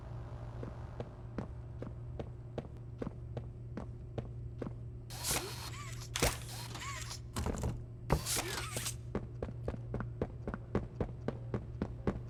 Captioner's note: footsteps